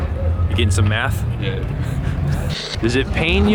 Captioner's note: laughing